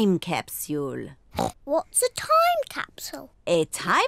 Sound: oinks

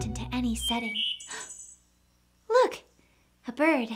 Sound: birdsong

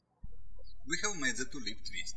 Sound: birds chirping

